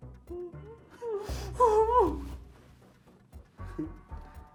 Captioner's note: Kathy crying faintly